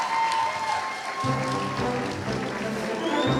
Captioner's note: applause; music & Applause